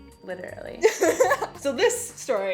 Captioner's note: laughing